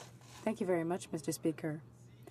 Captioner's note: speaking French